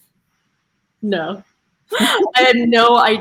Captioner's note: laughing